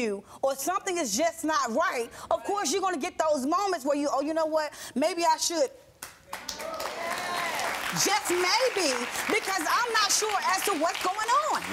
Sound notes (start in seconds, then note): 6.3 audience applauding and cheering